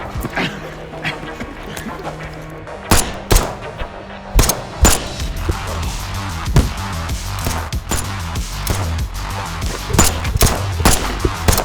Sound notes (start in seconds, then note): 0.0 gun firing; 0.3 dramatic music; 3.1 guns firing; 4.3 upbeat music; 7.8 guns firing